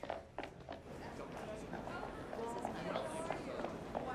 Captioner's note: hum of many conversations in background